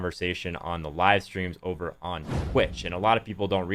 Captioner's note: whooshing sound